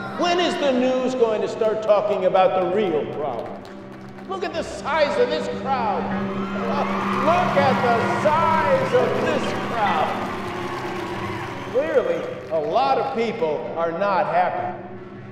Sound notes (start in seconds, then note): 5.9 cheers